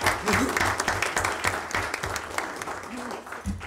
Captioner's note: clapping